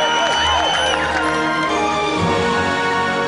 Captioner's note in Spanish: Aplausos